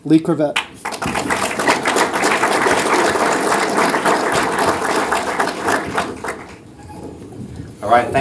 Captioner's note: applause